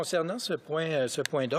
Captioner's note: speaking French